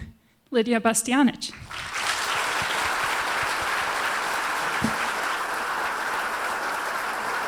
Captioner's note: applause